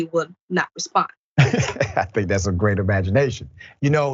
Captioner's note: laugh